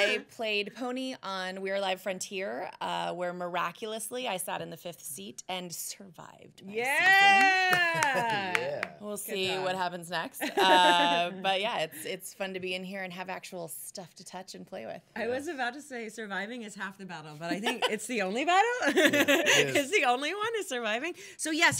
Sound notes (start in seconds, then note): 0.0 laughing; 7.2 clapping